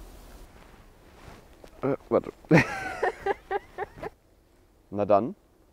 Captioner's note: laughing